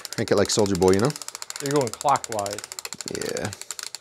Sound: ratchet clicking

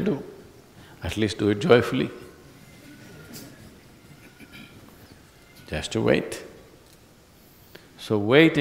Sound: laughs

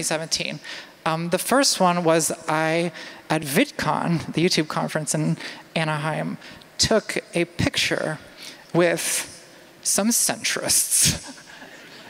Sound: laughter

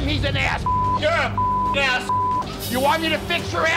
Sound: beep

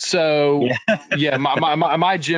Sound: laughing

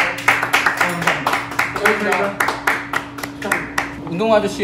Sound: clapping without even being aware of it

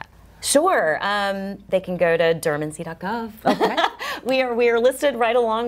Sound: chuckles

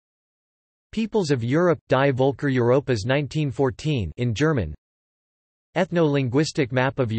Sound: in German

